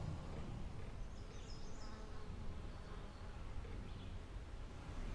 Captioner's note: birds chirp